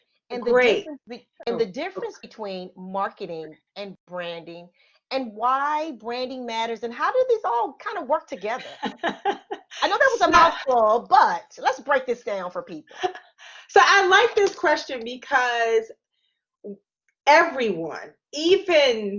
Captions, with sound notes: - Great. - And the difference between marketing and branding and why branding matters and how did this all kind of work together. (laughing) I know that was a mouthful, but let's break this down for people. - I like this question because everyone even experts